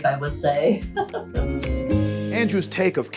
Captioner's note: laugh